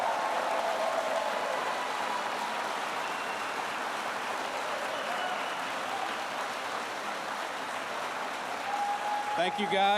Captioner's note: applause